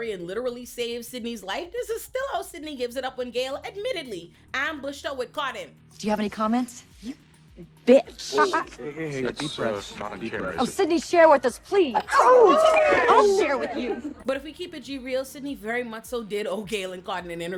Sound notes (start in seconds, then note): 7.6 laughing; 12.0 screaming